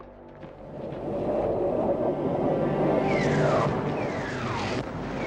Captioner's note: air whooshing